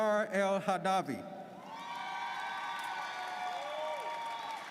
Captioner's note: audience cheers